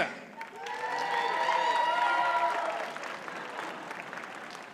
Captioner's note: audience cheers and applauds